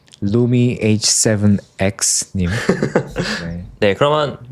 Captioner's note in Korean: 웃음